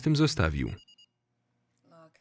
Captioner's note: beeping